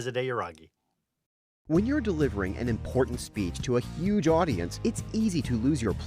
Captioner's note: voiceover